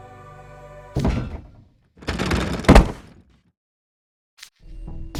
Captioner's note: thump! Thunk! Thud!